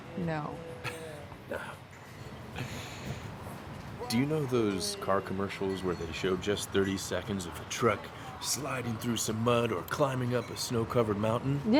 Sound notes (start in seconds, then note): 0.9 Cole laughs; 2.9 laughs